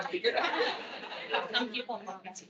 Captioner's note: attendees laughing